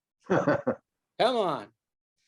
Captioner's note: laughs